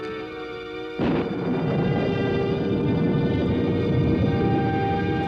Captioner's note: thunder rumbling